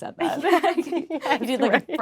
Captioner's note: laughing